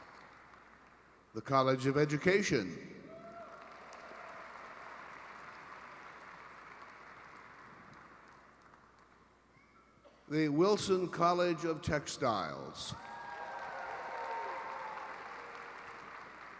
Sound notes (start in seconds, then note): 1.3 applause; 5.4 cheering and applause